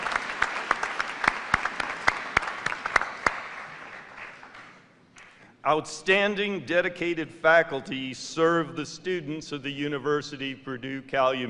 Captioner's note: applause